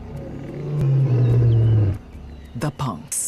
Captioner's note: roars